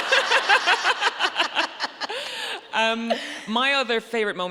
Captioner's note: audience laughing